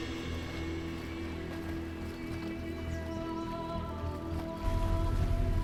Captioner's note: chanting in a foreign language